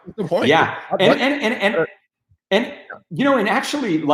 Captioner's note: voice distorting